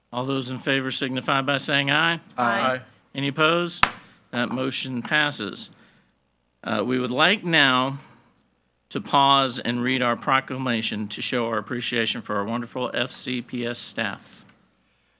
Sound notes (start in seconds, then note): 3.8 gavel bangs